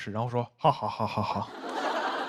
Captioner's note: laughing